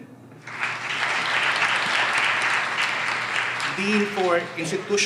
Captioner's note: audience applauds